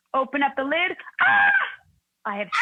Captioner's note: screaming